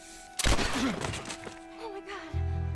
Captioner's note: gun firing